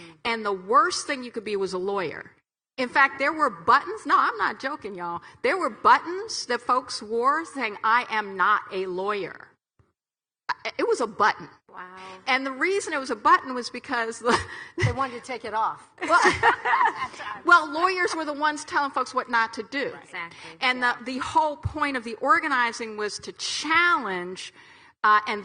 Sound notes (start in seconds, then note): 14.4 chuckles; 16.0 laughs